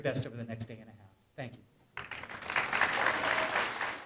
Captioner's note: clapping